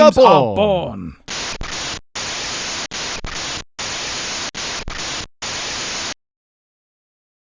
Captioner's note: crackling static plays one last time